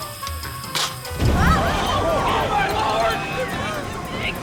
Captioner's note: gasps